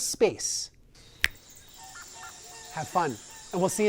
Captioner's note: fingers snap